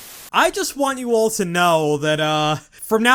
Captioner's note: static